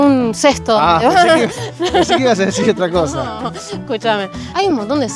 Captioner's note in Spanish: risas